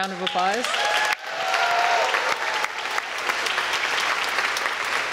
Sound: applause

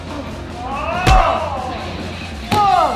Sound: loud smack

